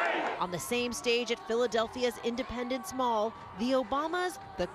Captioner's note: chanting "hillary"